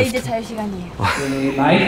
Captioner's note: laughs